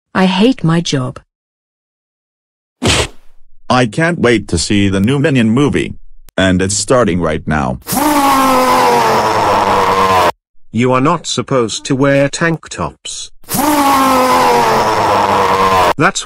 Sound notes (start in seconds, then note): 2.8 smack; 7.8 loud groaning noise; 13.4 loud groaning noise